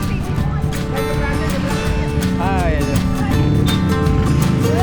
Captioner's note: people talking